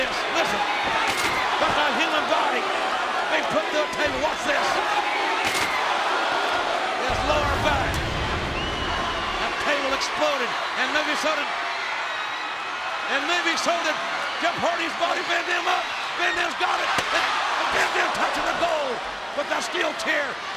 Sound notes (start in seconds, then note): 4.7 applause